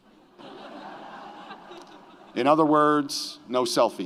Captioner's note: audience laughs